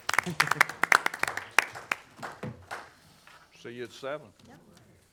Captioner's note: members applaud